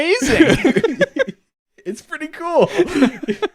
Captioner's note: both laughing